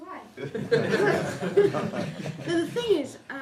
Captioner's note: laughter